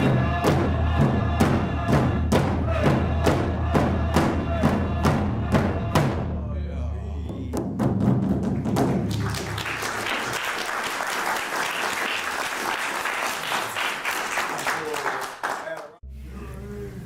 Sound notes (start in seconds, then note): 0.0 drums beating and singing; 8.5 applause